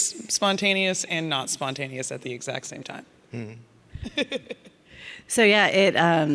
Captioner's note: laughs